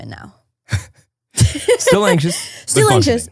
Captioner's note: laughing